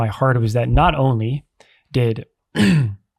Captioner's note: clears throat